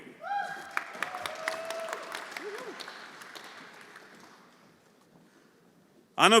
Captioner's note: audience cheering; everyone applauding